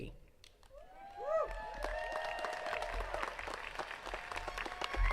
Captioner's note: attendees cheering and clapping